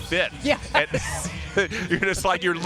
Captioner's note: laughter